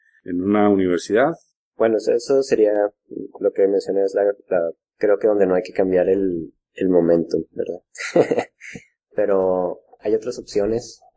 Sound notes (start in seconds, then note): 7.9 laughs